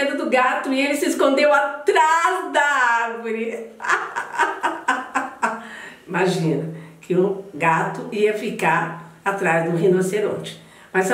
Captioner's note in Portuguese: risos